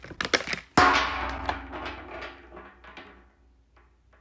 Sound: plastic scrunching; box thudding; Beanz twanging; Beanz rattling

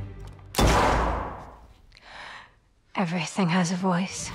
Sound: gun bangs

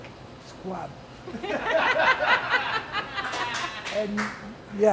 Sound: audience laughter

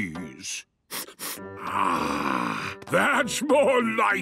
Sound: sniffs

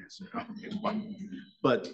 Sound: attendees chuckle

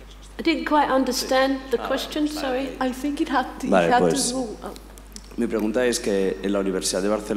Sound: he explains question in Spanish

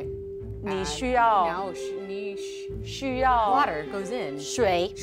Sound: speaking mandarin

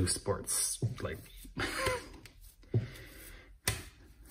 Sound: chuckles

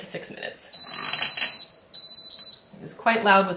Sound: oven beeps

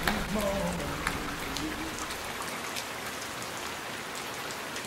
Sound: rain splashing down

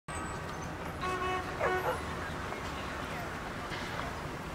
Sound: vehicle beeping; people chattering

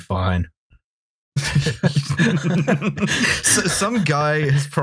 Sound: laughter

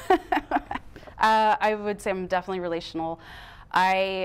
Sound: laughing

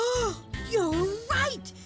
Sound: gasps

